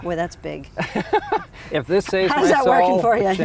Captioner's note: laughing